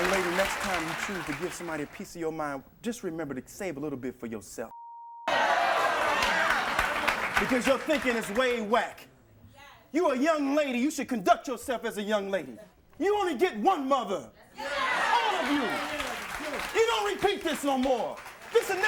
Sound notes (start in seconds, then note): 4.7 beeps; 5.2 audience cheers